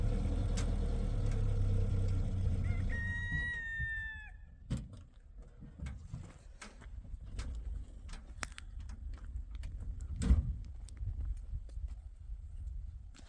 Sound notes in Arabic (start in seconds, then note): 2.6 صراخ